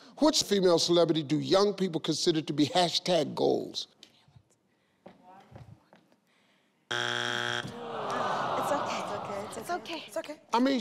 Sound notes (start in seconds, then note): 6.9 buzzer buzzes; 7.7 audience groans